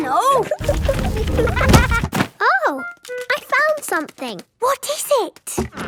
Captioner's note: thuds